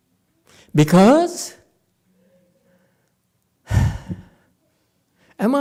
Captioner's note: sighs